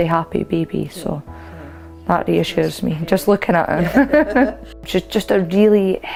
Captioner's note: laughs